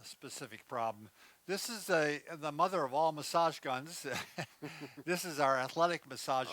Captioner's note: both chuckle